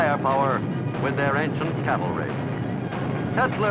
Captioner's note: cannons booming